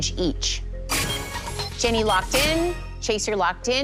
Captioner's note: chime, chime